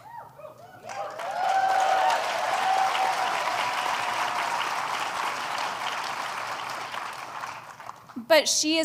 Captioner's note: applause